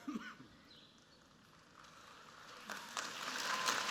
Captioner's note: applause